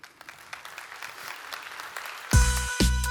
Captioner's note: applause